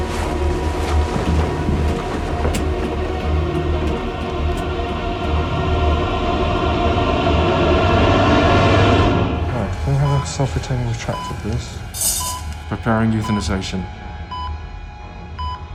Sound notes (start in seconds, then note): 1.8 suspenseful music; 10.0 heart monitor beeping